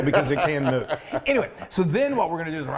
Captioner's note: laughing